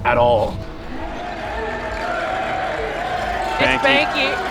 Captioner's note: crowd cheering